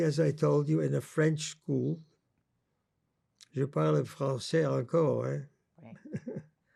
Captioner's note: french; laughing